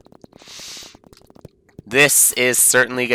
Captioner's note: inhaling